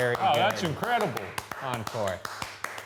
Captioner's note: applauding